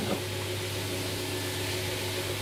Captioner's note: machine whirring